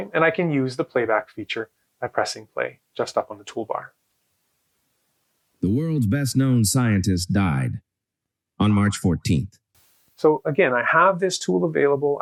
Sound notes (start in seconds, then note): 5.5 AI speech